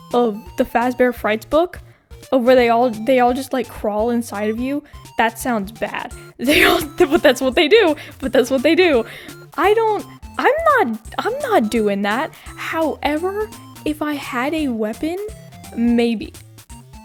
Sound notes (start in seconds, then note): 6.5 laughs